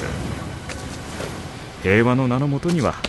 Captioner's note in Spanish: olas rompiendo en la playa